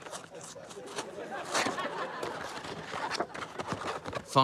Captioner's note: laughter